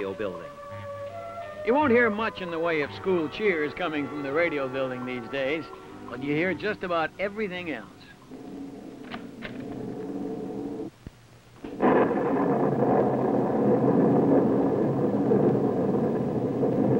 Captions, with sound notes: the one time girl's school turned radio building. Yo of school cheers in they coming from the radio building these days. But you'll hear just about everything else. [wind howls] [door clicks]